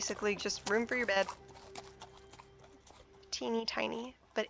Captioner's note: horse drawn cart passes